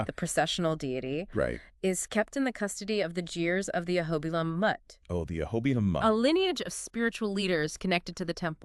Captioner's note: jeers